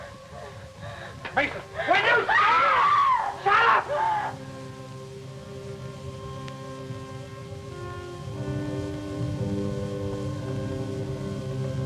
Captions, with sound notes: - Mason! - Will you shut up? (Katie screaming) Shut up! (somber instrumental music)